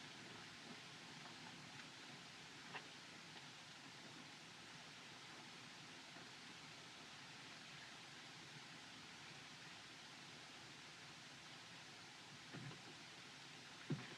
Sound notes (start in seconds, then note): none